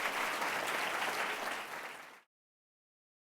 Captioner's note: audience clapping